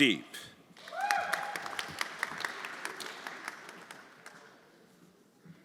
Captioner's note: everyone applauding